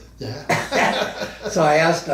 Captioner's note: both men laugh